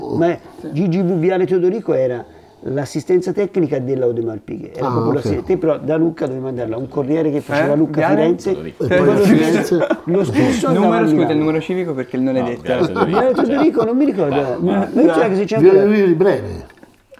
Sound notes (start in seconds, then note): 12.6 laughts